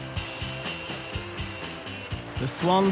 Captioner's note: in English